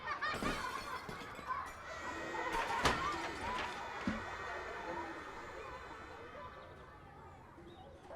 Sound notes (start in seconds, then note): 0.0 children laughing; 0.0 objects clattering